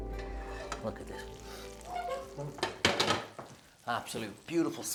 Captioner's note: breathes deeply